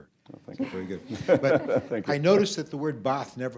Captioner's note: laughter